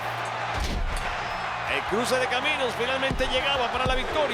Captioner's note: applause